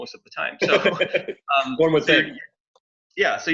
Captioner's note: laughs